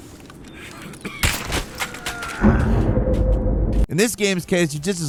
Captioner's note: gunshot cracking; man groaning